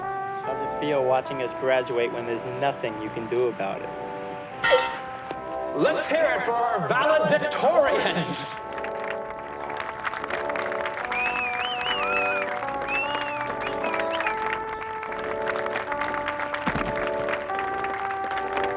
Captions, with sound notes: - How's it feel watching us graduate when there's nothing you can do about it? (clang) - Let's hear it for our Valedictorians! (applause and whistling)